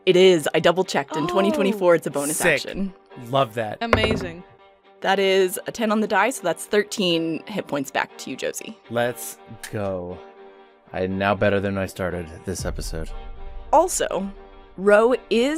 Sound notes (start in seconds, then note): 3.9 heavy dice thunk